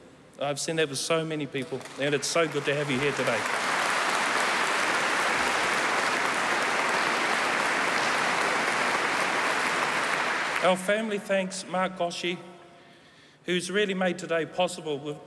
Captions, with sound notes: I've seen that with so many people, and it's so good to have you here today. [Applause] Our family thanks Mark Gosche, who has really made today possible.